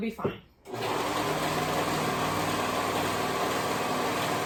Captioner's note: machine humming